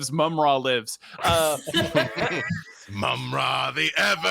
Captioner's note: people laughing